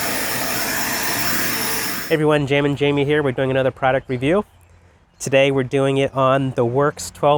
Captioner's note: blower Sound